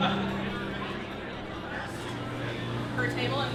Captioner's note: crowd talking